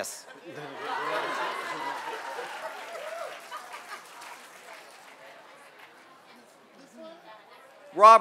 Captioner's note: laughter and applause